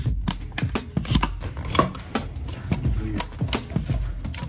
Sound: crackles and a pop

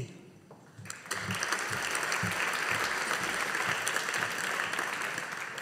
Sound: audience applauding

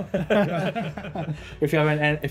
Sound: laughing

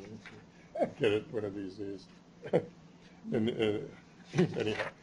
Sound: chuckles

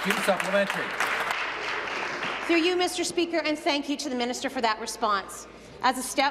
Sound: applause

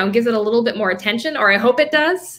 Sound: none

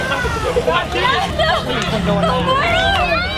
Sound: chuckles

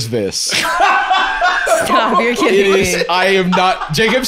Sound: laughing

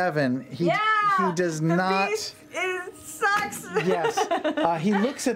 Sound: laughs

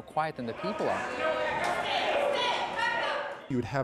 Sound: people clamoring

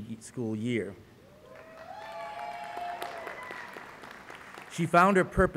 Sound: applause

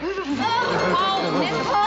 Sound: shivering

